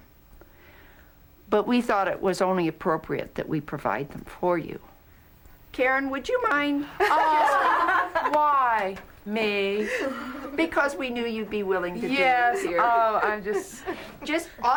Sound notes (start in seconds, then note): 6.9 all laughing